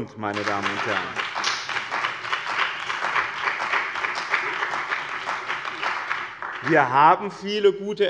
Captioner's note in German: Beifall bei der CDU und dem BÜNDNIS 90/DIE GRÜNEN